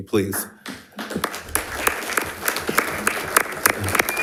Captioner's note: audience applauding